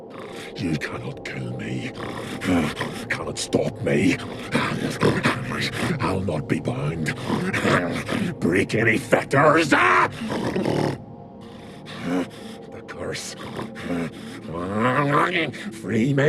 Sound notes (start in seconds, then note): 7.7 snarl